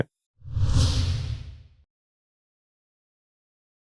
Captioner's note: logo whooshes